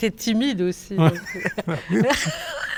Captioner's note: laughs